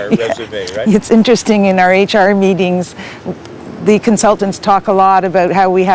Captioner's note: laughs and nods